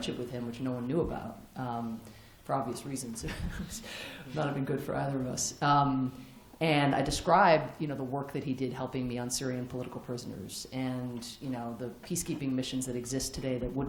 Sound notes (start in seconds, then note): 3.3 laughs